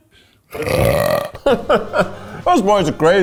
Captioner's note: burps; laughing